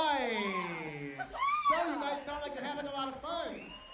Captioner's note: cheers